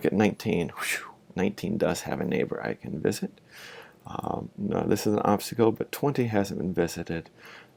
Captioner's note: whew